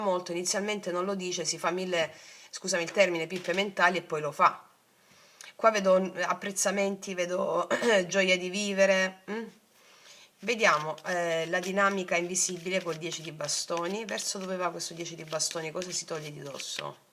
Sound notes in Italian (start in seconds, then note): 8.1 schiarire la voce